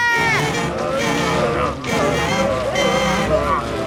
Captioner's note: grumbling